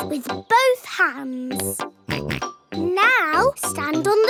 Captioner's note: snorts